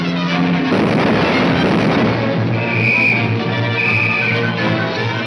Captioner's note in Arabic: صافرة